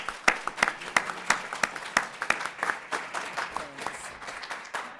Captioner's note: applause